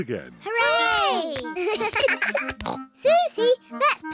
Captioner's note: both giggle